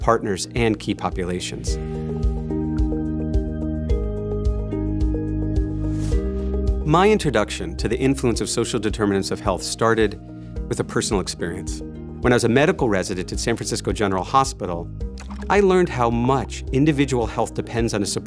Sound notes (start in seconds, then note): 5.8 air whooshing